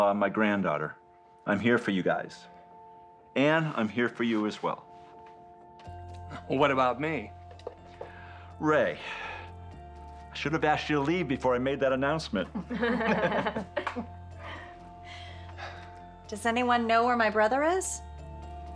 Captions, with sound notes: and my granddaughter. I'm here for you, guys. Ann, I'm here for you, as well. - Well, what about me? - Ray. I should have asked you to leave before I made that announcement. (group laughs) - Does anyone know where my brother is?